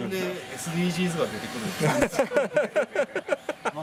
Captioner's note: laughs